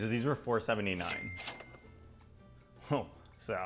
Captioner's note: register ka-ching